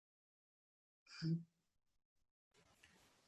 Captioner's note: silence